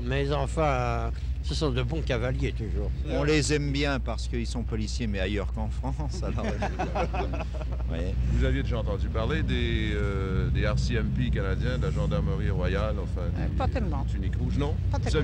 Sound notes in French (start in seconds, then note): 6.1 rires